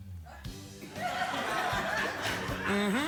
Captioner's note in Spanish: risas